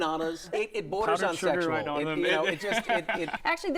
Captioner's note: laughs